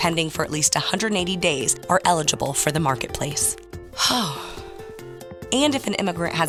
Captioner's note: out of breath/sign of relief